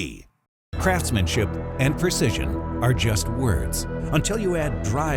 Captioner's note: voiceover